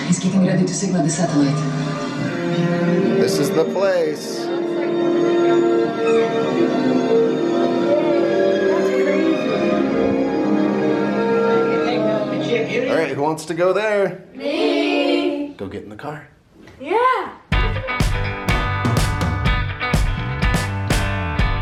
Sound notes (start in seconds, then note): 14.7 children in Unison; 17.5 happy rock music